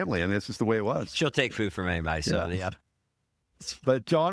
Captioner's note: laughing